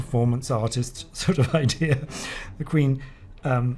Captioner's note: laughs